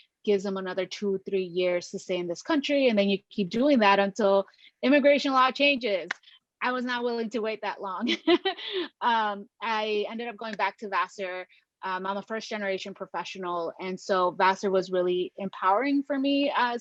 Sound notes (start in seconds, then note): 8.0 laughs